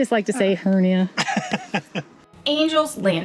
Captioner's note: laughter